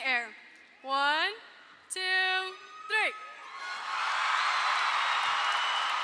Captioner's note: audience cheers